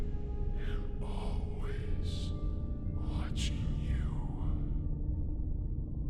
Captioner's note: creepy Voice